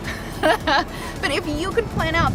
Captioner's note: laughs